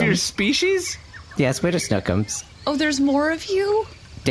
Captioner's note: giggling; excited